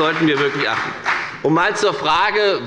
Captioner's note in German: Beifall bei der FDP